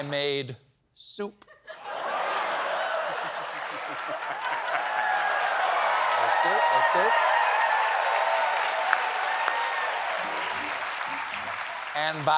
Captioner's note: cheers and applause